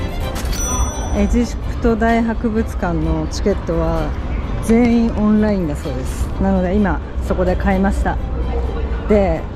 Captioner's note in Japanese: スマホで